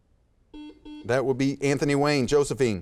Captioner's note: buzzer beeps